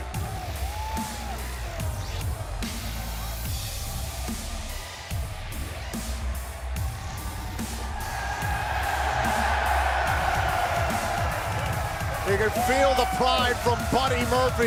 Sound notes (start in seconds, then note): 8.1 cheers & applause